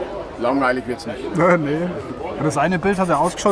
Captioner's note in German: lacht